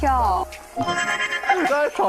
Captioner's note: haha!